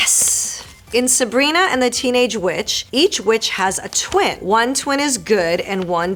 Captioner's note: Marisol reading fan letter aloud